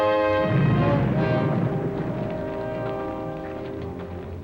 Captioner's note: muffled explosion rumbles